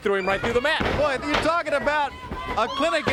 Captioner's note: crowd cheering